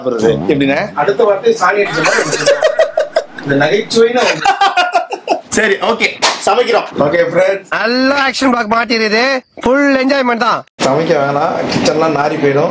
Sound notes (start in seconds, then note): 4.8 laughs